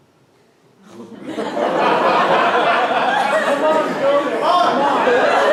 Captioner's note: laughter